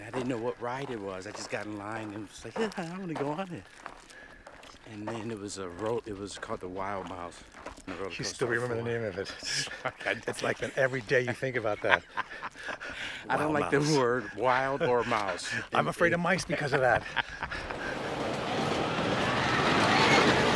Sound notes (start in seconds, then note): 12.0 laughs; 17.1 laughs; 17.7 whooshing